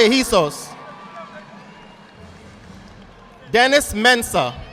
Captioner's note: audience applauding